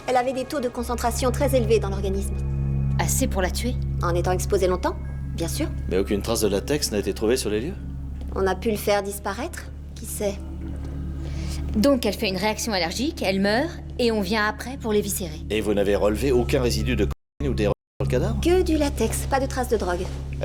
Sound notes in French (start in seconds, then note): none